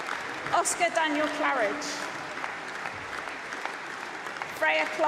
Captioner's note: applause